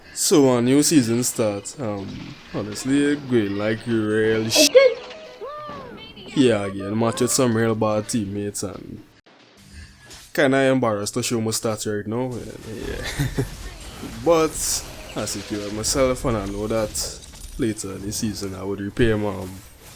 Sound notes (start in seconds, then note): 12.8 murmured laughter